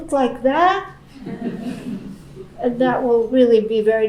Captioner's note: laughing